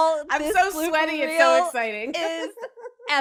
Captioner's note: laughs